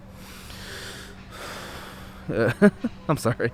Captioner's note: exhaling deeply